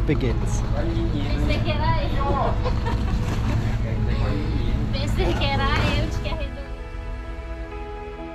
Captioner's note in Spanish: gente en el fondo hablando en portugués